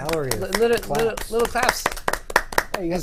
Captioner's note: applause